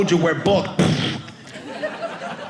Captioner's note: audience laughing